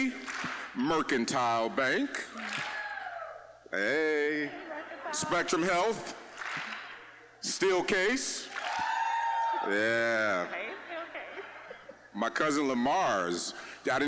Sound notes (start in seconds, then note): 2.2 audience clapping once; 2.4 attendee cheering; 5.6 audience clapping once; 8.4 audience clapping once; 8.4 cheering